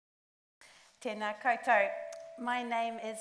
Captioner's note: speaks in Māori